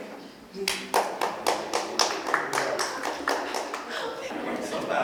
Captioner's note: applause